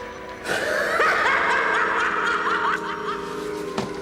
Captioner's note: cackles menacingly